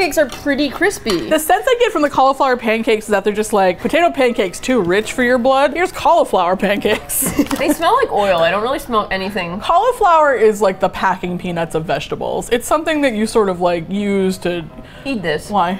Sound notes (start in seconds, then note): 6.9 both laugh